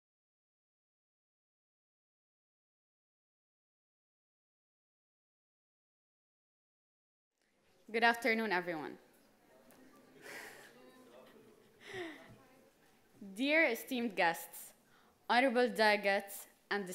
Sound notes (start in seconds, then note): 9.2 chuckles